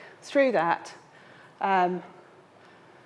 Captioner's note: none